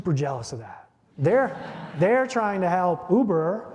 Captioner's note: audience laughing